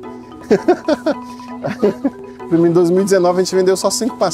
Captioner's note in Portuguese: Risos